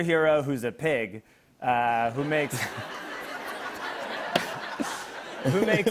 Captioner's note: laughter